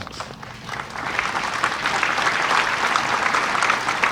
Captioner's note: audience applauding